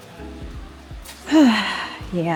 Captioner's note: sigh